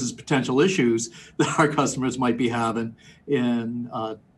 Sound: laughs

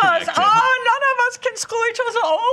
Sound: imitates German accent

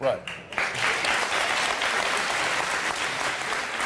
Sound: audience applause

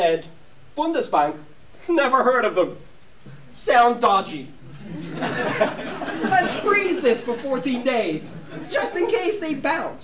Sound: laughter

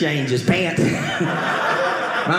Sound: audience laughing

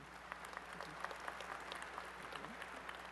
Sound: applause

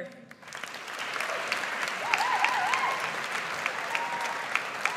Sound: audience applauds

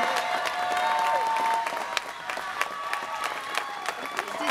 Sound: students cheering

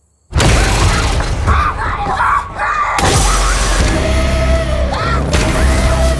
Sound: dramatic music; Maya screaming

